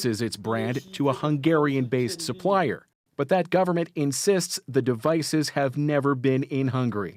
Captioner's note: speaking alternate language